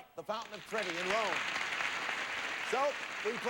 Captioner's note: audience applauding